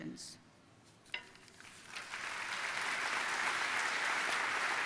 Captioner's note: audience applauding